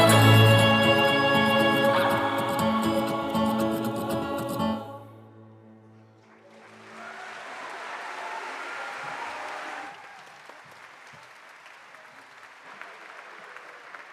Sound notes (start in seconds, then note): 6.2 audience applauding